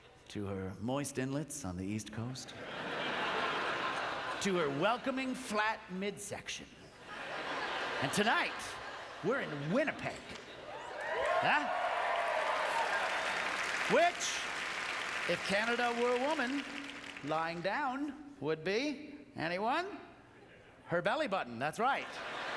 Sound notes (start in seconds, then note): 10.8 applause